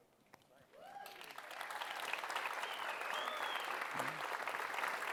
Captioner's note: cheering and applause